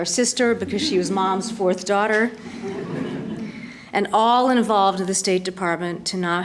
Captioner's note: laughter